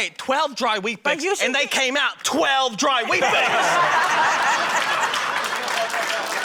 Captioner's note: laughter, applause